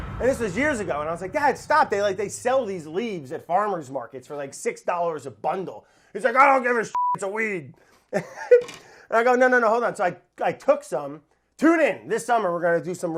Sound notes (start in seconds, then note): 8.1 laughs